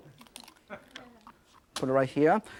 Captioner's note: audience giggling